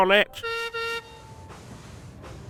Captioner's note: peter sam whistles